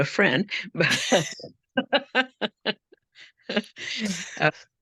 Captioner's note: laughing